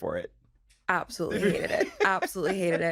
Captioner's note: laughs